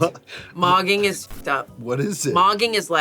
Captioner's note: beep